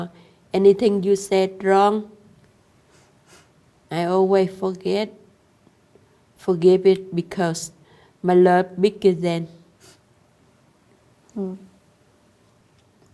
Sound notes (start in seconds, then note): none